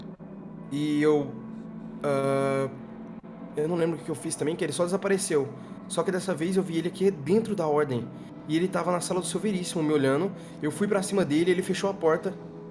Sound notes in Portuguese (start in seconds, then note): none